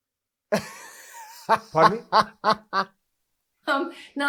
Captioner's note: laughs